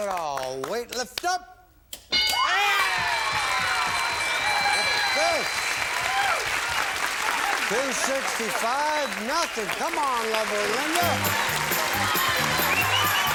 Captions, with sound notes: -If it's there, you have it all. Weight lifters? (bell) (applause) Two sixty-five, nothing. Come on lover, Linda.